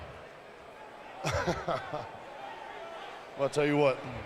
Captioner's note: Batista chuckling